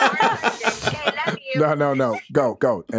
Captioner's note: all laughing